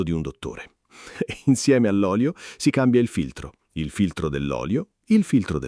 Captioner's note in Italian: Haha